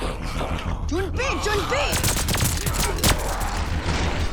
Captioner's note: speaking mandarin